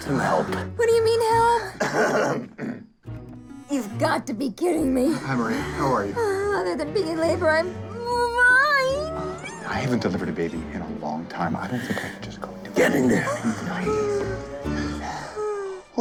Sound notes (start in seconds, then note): 1.8 clears throat